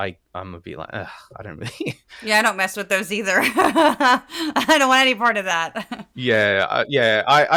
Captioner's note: laugh; laugh